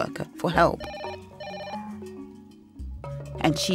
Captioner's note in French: sonnerie téléphone